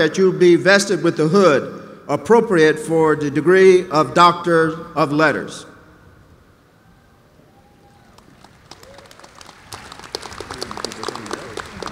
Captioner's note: applause